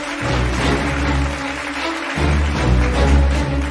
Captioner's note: audience applauding